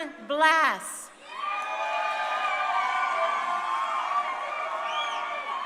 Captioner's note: crowd cheering